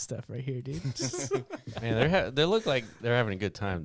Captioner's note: laughing